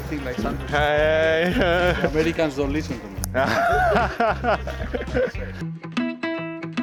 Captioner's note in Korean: 웃음